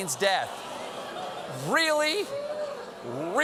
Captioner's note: audience reacts